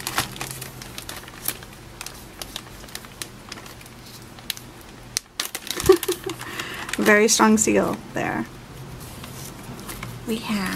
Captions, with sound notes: (laugh) very strong seal there we have